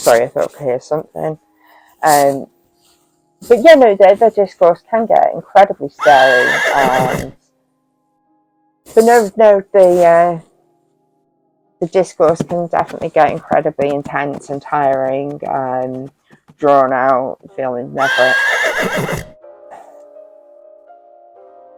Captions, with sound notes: I'm sorry. I thought I'd hear something. Erm no, yeah the discourse can get incredibly scary *neighing coming from offscreen* So no, no the discourse can definitely get incredibly intense and tiring *offscreen hoof beats* and drawn out feeling never .. *offscreen neigh* Erm